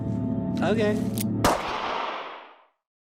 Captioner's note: gunshot